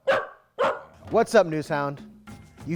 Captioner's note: dog barking